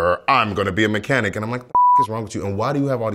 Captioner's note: beeping